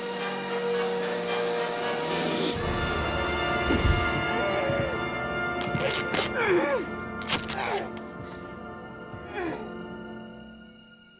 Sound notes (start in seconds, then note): 7.1 tape tearing